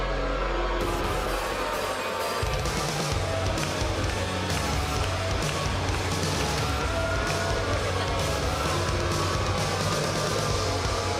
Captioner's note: crowd cheering